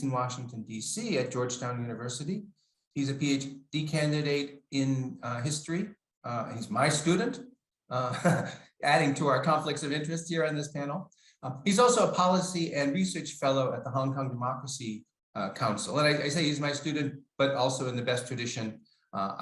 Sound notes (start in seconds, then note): 8.0 laughs